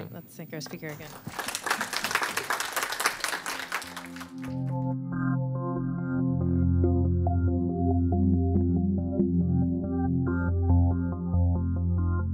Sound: applause

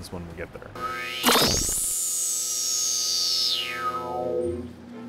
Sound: sound Effects

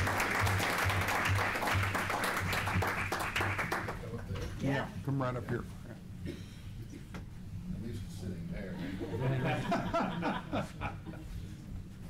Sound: applause

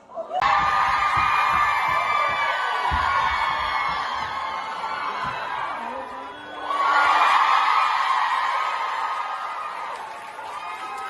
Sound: ปรบมือ

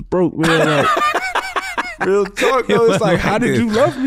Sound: laughs

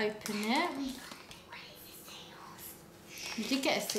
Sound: whispers

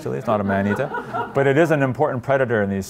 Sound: laughter

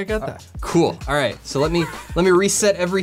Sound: laughs

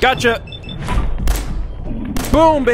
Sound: blam!

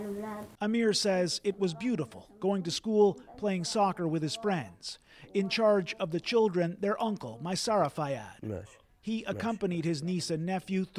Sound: speaking alternate language

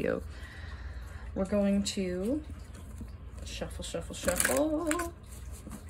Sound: cards continue shuffling; cards shuffling

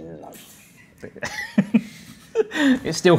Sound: giggles

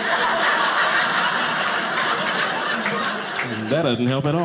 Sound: audience laughing

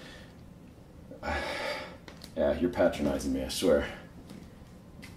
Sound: sighs

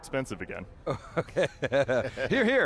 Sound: laughing

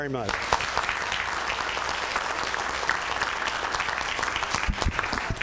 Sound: applause

